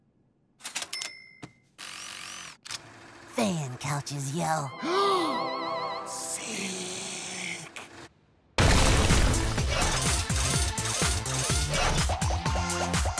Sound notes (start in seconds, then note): 0.8 cash register dings; 4.8 gasps; 8.5 thuds; 9.4 whirring; 10.2 upbeat music playing